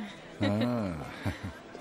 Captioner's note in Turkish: Gülme sesi